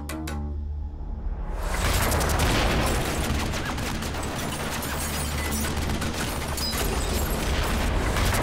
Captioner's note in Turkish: Silah Sesi